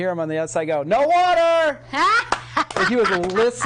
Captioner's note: laughing